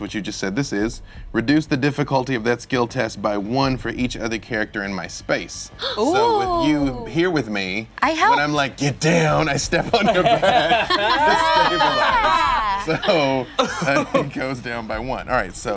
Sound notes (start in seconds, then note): 5.8 gasping; 12.0 laughter